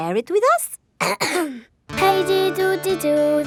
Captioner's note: clears throat